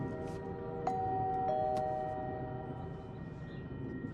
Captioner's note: doorbell chimes